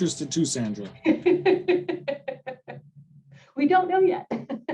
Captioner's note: laughter